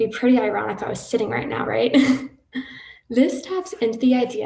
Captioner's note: chuckles